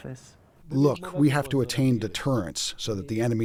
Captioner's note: through translator